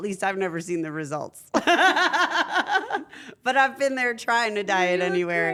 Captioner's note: laugh